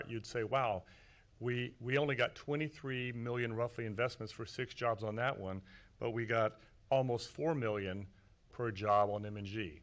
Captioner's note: none